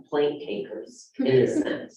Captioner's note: laughter